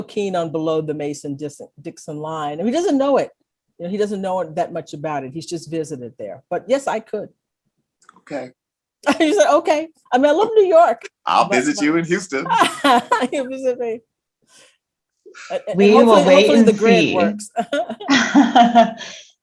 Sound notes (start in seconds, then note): 11.3 laughs; 17.5 laughter